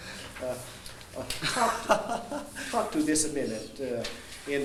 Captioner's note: laughing